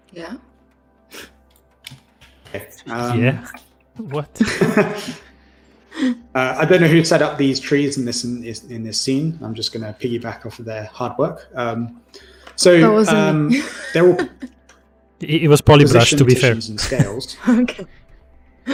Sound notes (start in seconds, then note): 4.4 laughter; 13.2 laughs